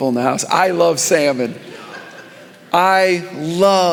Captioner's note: congregation laughing